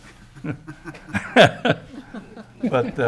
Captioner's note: laughs